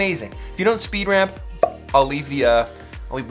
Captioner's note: popping